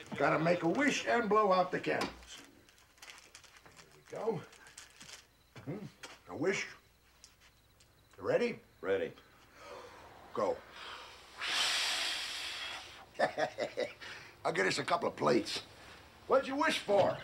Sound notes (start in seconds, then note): 10.6 both exhaling; 13.0 chuckles